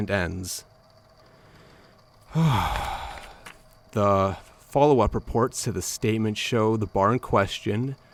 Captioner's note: heavy sigh, followed by shuffling through papers